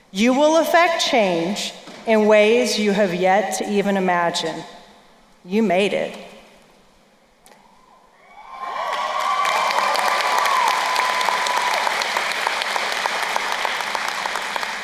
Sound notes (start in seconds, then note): 8.4 crowd cheering and applauding